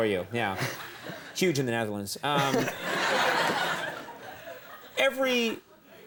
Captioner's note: crowd laughs